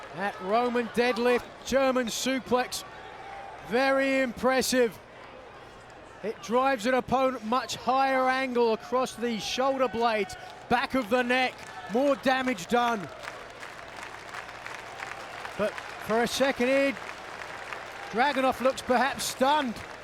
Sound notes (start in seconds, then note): 13.7 applause